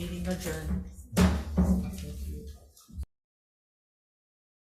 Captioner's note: gavel banging